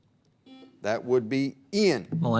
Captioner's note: buzzer beep